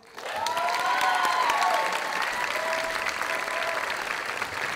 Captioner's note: audience applauding